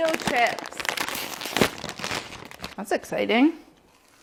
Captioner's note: bag crinkling